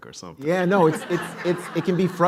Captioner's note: laughter